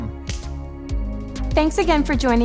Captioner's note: slapping